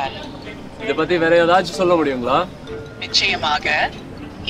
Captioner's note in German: Person 2 auf Tamil